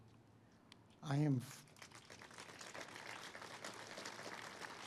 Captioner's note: audience applauds